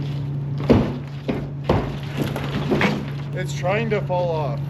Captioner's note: crate thuds